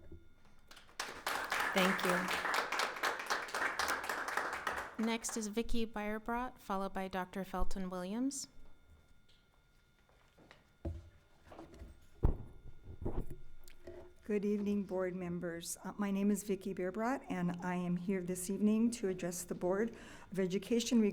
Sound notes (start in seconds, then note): 0.6 audience applauds